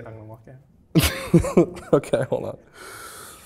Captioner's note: laughs